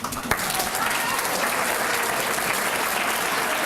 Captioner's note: applause